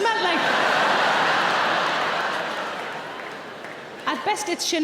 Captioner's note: audience laughing